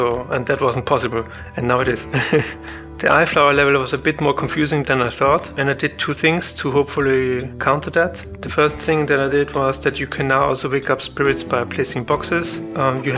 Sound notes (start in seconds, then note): 0.8 laughs